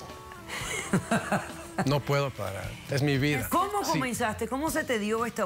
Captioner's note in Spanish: Risas